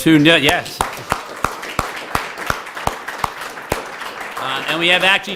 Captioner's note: applause